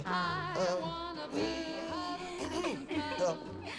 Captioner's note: gasps